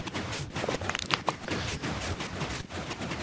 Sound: chirps and pops

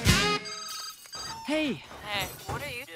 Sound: cell phone ringing

